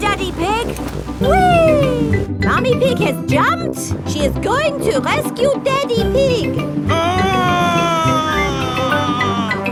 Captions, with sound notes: Wait for me, Daddy Pig! Whee! Mummy Pig has jumped. She is going to rescue Daddy Pig! (SCREAMING)